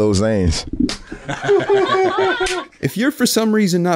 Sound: laughing

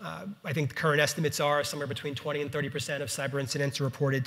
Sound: none

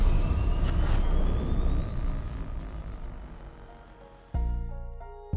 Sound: sound effects playing

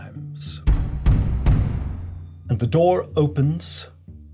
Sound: knocking sounds

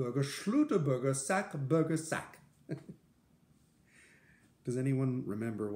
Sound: laughter

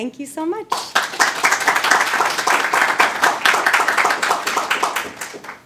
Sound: audience applauding

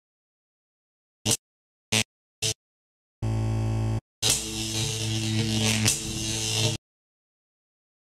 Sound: Static; silence

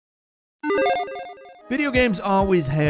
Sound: upbeat music; logo beeping

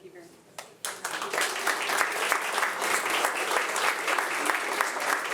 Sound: audience applauding

